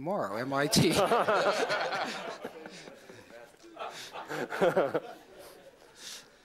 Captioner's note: laughter